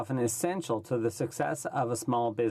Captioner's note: speaking French